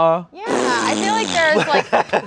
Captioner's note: blowing raspberry